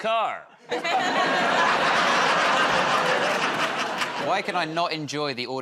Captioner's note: laughter